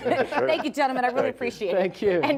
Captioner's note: laughs